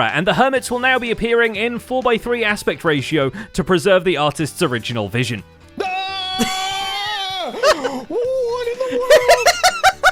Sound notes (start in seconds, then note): 5.8 screaming; 9.7 laughing louder